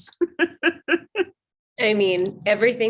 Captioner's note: laughs